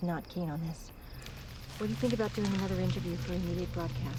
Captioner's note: leaves rustling